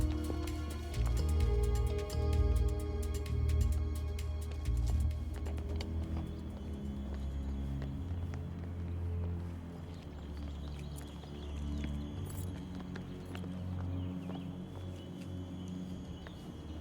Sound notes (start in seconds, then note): 5.4 birds chirp; 5.4 ominous music